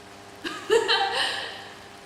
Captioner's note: laugh